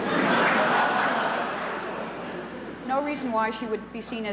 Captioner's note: laughter